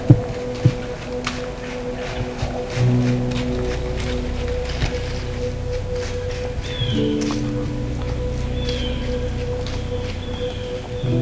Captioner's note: leaves crunching, soft music